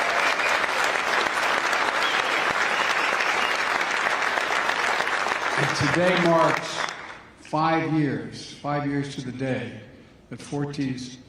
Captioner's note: applause